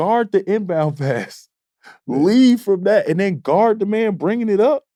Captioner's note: laughs